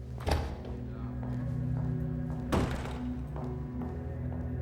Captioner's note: footsteps